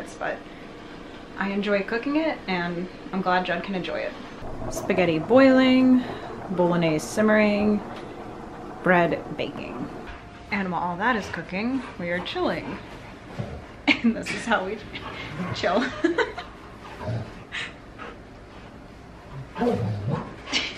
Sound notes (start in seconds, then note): 15.7 laughing; 17.0 dog snarling